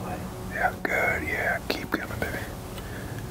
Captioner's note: whispering